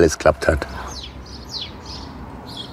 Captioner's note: birds chirping